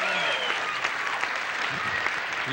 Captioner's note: cheering